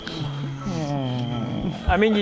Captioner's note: contented couple sighs